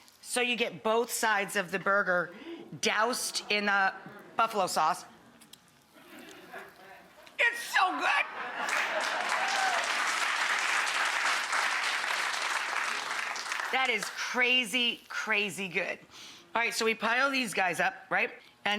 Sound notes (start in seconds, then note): 5.1 licks fingers; 8.5 audience applauds